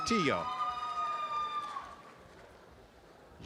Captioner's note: audience applause